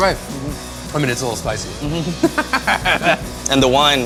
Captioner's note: laughs